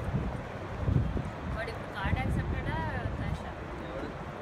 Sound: people talking

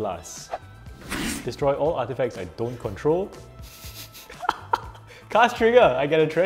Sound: laughs

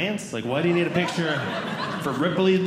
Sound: audience Laughing

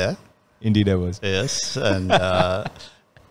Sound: laughs

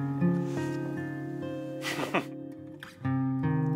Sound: laughs; gentle guitar music

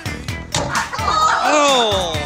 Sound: thumping

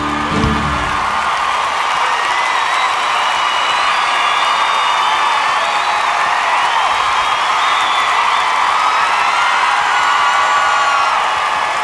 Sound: cheers and applause

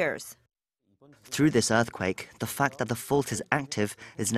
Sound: Korean

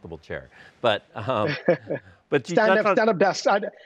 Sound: laughing

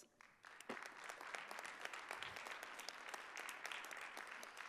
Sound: audience applauding

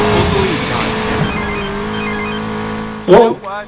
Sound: phone rings

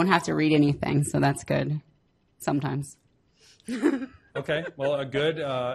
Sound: laughs

